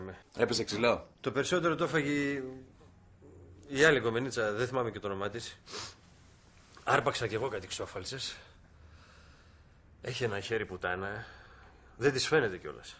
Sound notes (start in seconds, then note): none